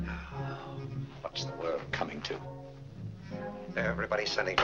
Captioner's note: sighs